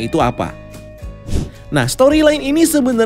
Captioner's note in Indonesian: suara transisi